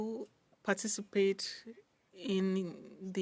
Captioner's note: speaking French